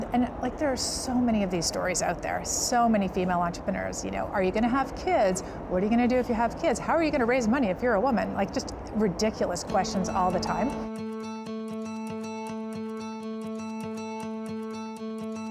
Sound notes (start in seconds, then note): none